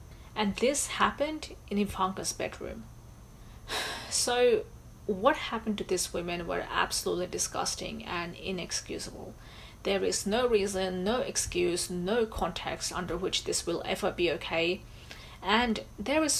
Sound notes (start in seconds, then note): 3.6 sighs